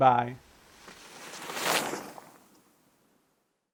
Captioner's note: air whooshing